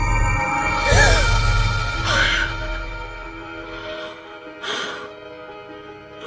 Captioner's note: gasps; panting; dramatic music